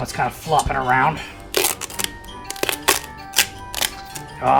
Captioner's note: tape sticking and unsticking